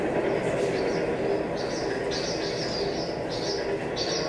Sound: train wheel squeaking

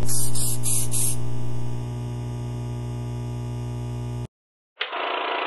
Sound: spray paint; electricity noises

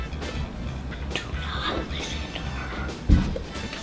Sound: whispering

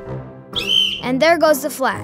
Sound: whistle blows

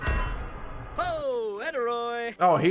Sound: speaking Simlish

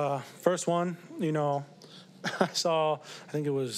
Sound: laughs

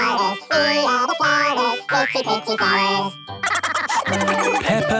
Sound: laughter

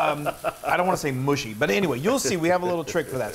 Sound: laugh

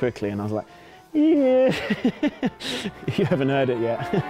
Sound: laughs

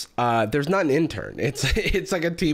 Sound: laughs

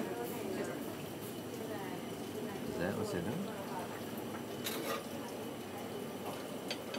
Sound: ambient kitchen noise

